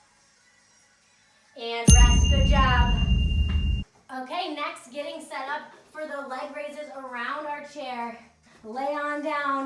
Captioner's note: ding